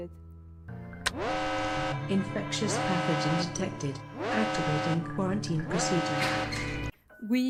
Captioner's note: siren